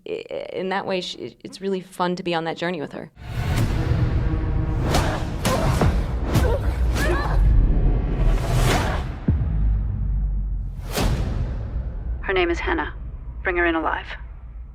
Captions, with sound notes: and I think in that way it's ren to be on that journey with her. (compelling music) (grunts) Her name is Hanna. Bring her in.